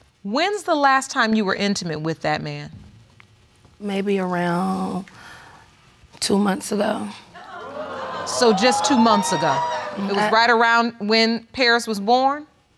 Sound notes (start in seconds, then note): 7.3 audience exclaiming